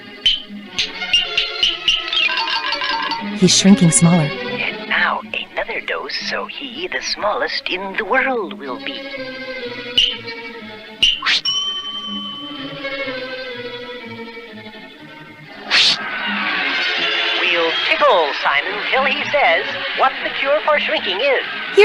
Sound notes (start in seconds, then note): 3.6 whispering; 15.5 crowd Roars; 21.0 crowd Roars